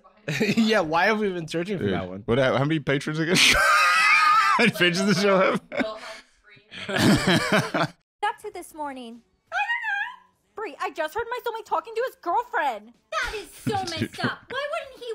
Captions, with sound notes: Yeah, why have we been searching for that one? How many Patrons, again? (laughs) How many Patrons does this show have? (laughing)